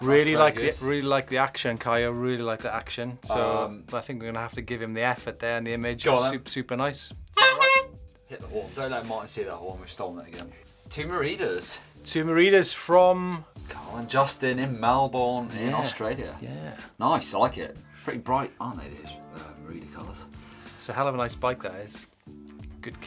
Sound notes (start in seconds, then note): 7.3 horn honks